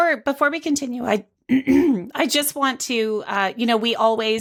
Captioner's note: clears throat